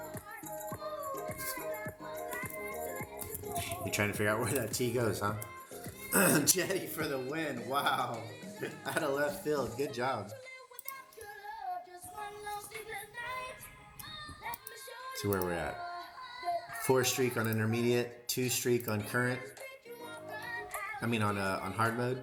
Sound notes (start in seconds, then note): 6.0 clears throat